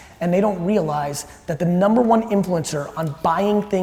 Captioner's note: none